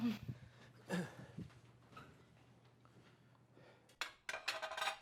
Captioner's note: Wes clears throat; plates clinking